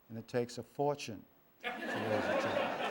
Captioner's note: laughter